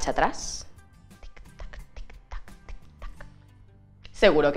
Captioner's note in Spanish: tic tac en voz baijta